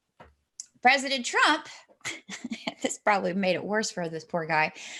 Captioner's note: laughs